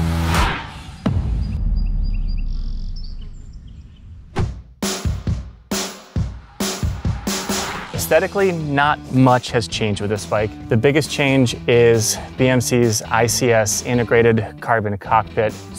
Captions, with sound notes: (birds chirping) (upbeat rock music) Aesthetically, not much has changed with this bike. The biggest change is BMC's ICS integrated carbon cockpit.